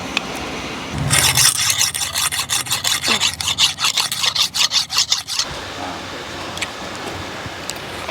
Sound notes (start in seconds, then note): 1.0 knife sharpening